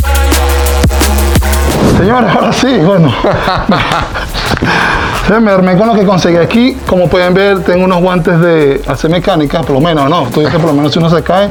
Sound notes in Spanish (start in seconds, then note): 2.2 risas